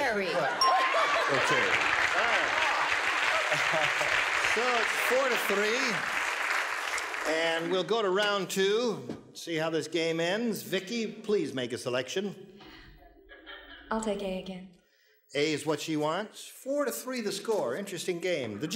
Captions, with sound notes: -Right. (laughter) Okay, all right. (applause) So, it's four to three. And we'll go to round two, see how this game ends. Vicki, please make a selection. -I'll take A again. -A is what she wants. Four to three, the score. Interesting game.